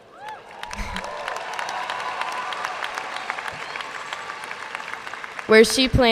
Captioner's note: audience cheering and applauding